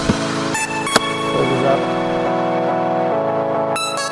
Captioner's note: handle clicks